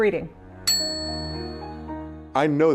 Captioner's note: typewriter ding